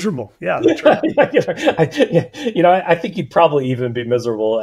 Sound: laughing

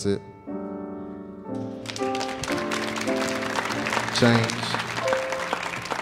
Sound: audience applauding

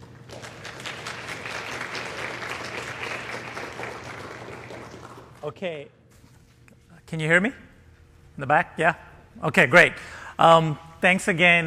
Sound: applause

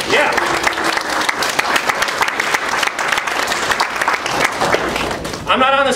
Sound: clapping continues

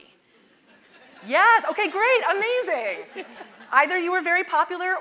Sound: audience laughing

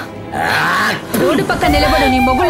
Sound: spit

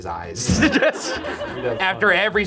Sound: audience laughs

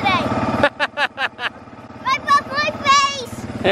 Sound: laughing

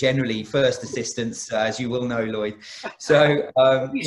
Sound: laughs

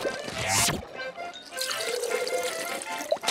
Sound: none

